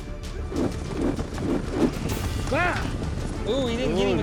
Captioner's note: twirling rope